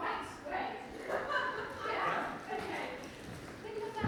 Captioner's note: laughter